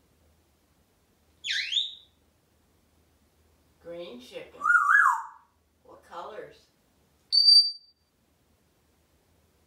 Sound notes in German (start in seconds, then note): 1.5 squeak sound; 4.7 whistling